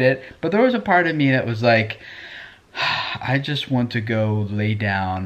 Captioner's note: sighs